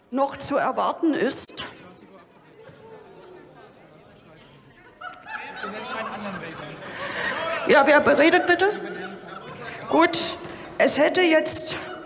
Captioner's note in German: Lachen bei Abgeordneten der SPD